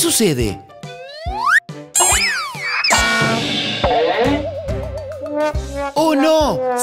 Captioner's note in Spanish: Sonido de golpe